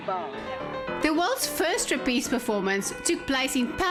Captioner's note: narrating